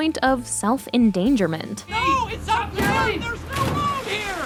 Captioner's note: yelling